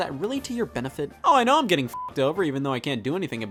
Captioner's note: beep